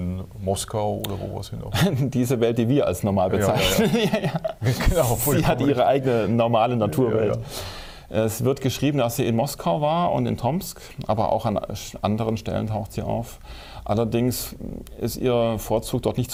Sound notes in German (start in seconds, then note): 3.4 lacht